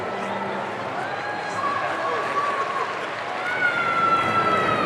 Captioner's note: audience cheering